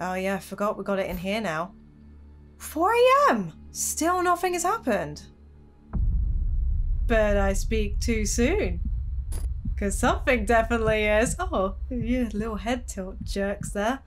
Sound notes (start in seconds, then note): 9.0 heart beating